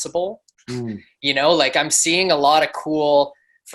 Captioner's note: humming